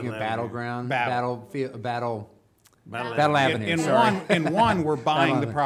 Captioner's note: chuckling